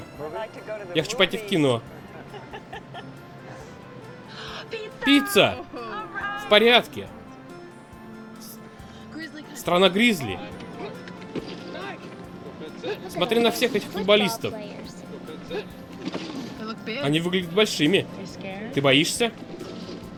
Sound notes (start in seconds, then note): 2.0 laughter